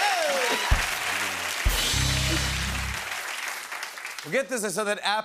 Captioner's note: applause; rimshot